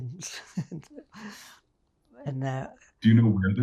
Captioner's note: laughing